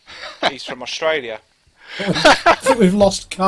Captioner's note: laughter